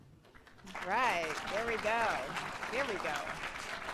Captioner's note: applause